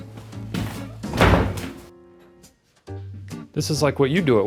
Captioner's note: door shuts